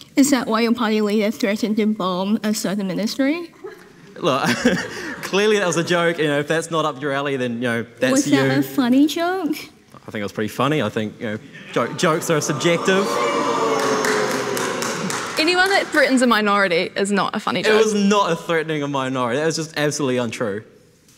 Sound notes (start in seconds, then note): 13.6 audience gasping; 14.3 attendee applauding